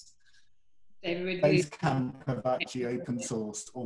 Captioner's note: audio glitches